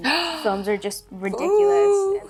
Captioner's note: Catherine gasps